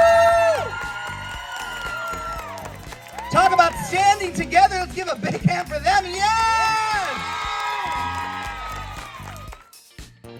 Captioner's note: applause